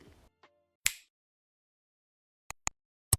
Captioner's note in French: Bruit de claquement de doigts